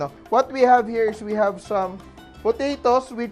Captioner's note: none